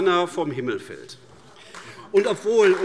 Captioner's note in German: Beifall AfD